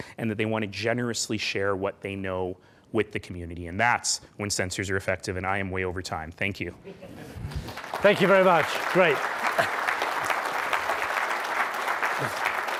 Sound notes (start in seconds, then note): 6.8 laughing; 7.5 clapping